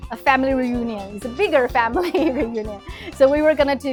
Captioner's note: chuckles